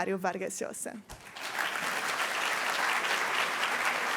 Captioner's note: applause